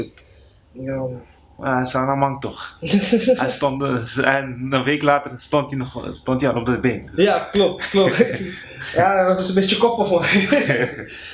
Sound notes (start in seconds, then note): 2.8 laughter